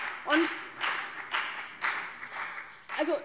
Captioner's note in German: Beifall CDU und BÜNDNIS 90/DIE GRÜNEN